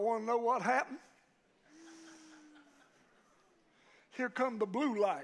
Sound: congregation laughs

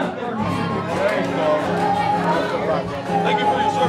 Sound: people chattering

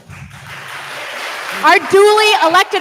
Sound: attendees applauding

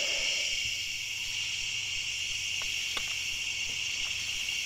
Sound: insects chirring

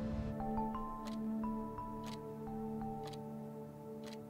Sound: clock ticking

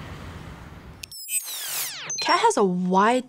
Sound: electronic whirring

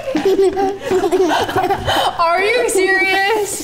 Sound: laughing

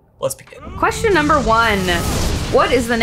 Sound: explosion noise

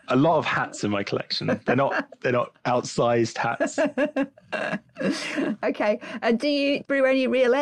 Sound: laughing

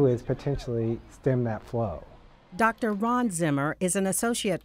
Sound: voiceover

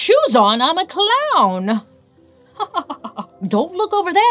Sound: laughs

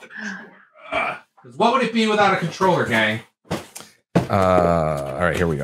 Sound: grunts

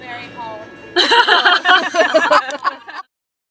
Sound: laughs

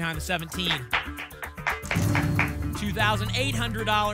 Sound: clapping

